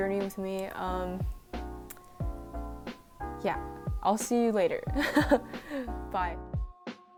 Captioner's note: laughs